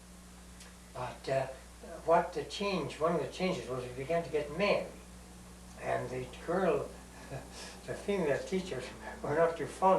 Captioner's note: laughs